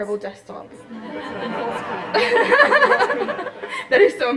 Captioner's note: laughter